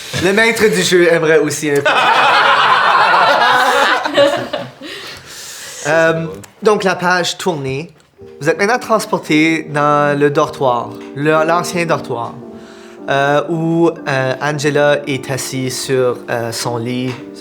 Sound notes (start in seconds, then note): 1.8 the group bursts out laughing